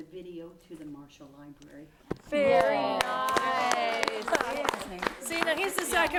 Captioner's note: �applause�